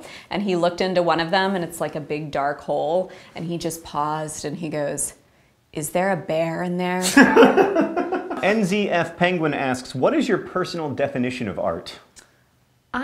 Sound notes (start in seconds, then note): 7.0 laughter